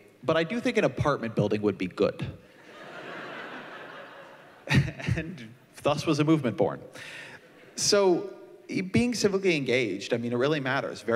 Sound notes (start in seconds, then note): 2.6 laughter